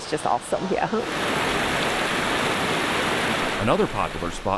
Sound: water running

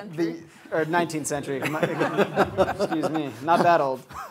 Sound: audience laughter

